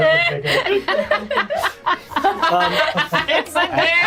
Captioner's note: laughing